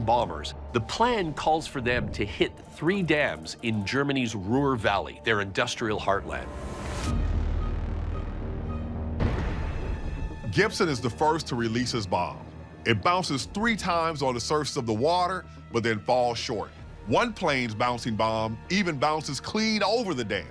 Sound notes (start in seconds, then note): 6.2 bombs exploding; 6.2 dark dramatic music